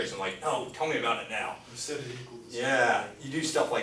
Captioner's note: voiceover